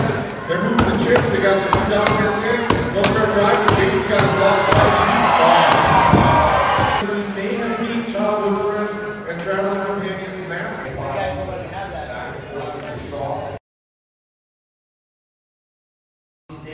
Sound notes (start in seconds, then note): 5.3 crowd cheering